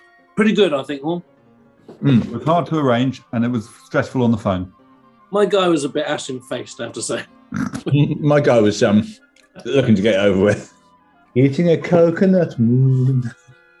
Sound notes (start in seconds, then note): 7.4 sniggering